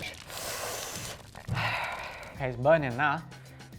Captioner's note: inhaling sharply